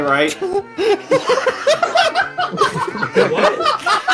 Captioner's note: everyone laughing